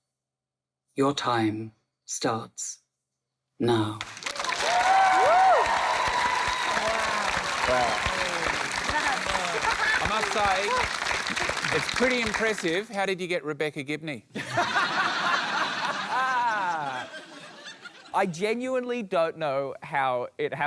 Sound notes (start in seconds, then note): 4.7 cheering, applause; 8.2 applause; 14.3 laughter